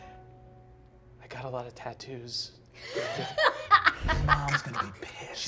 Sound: laughing

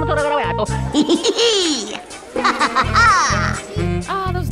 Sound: Jr Laugh

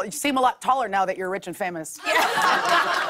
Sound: laughter

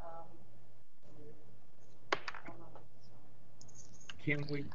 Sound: voice muffled

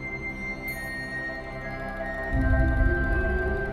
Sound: epic music; bells chime

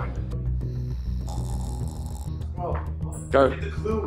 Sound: snoring

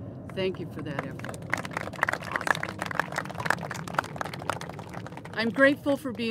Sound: applauses

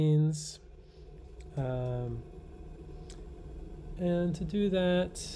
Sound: kettle whirring faintly

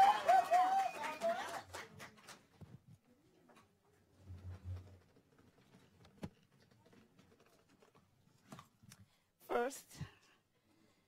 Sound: cheers

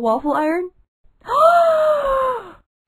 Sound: gasp of pure joy!

